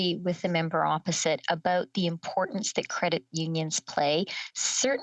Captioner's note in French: voix de l'interprète